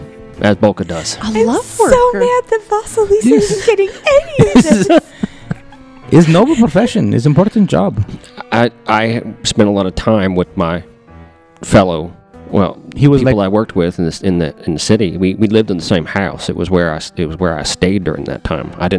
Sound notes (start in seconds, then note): 3.2 laughing; 5.0 laughs